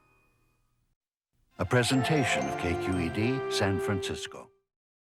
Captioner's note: voiceover